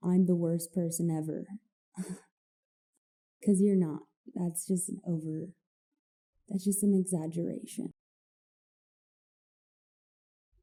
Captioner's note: slight laugh